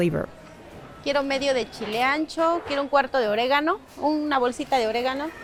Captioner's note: speaking foreign language